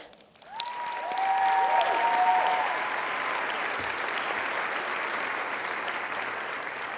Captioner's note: applauding